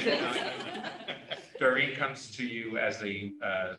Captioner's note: laughter